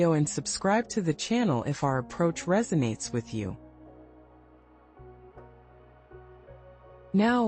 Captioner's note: pause